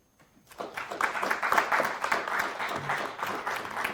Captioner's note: audience applauds